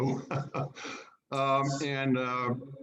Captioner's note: laughing